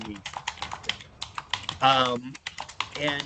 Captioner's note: typing sounds